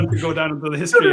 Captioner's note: laughs